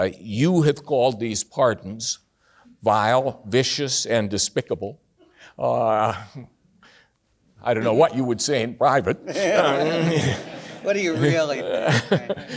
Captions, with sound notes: You have called these pardons vile, vicious and despicable. I don't know what you would say in private. (everyone laughs) - What do you really think?